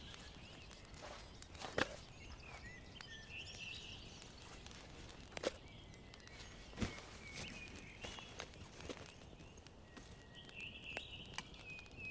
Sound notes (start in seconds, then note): 5.4 birds chirping